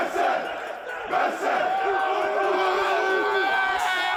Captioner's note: cheering